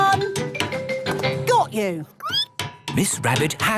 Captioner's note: squeaking